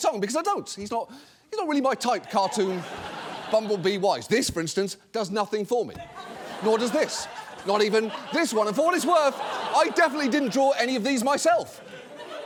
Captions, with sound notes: because I don't. He's not really my type, cartoon bumblebee wise. This, for instance, does nothing for me. -(STUDIO AUDIENCE LAUGHS) -Nor does this. Not even this one. And for what it's worth, I definitely didn't draw any of these myself,